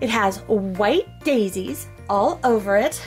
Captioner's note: none